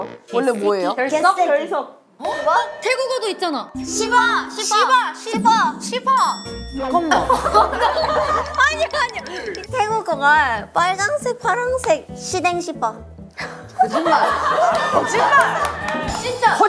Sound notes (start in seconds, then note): 13.8 laughing